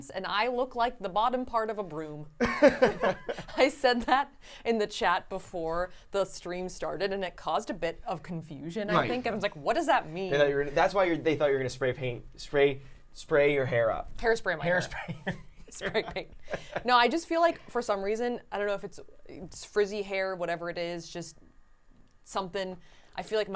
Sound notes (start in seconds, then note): 2.4 laughing